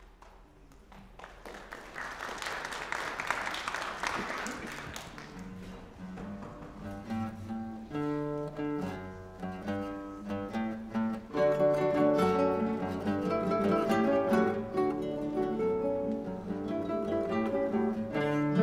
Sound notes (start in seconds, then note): 1.7 applause; 12.1 upbeat, delicate guitar music